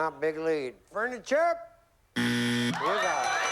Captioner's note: buzzer